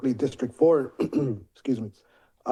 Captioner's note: clears throat